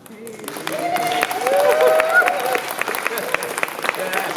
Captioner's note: applause, whooping